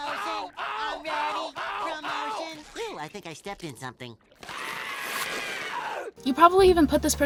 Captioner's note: screaming